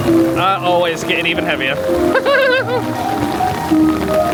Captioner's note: laughs; 1920s piano music